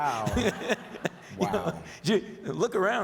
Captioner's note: audience laughs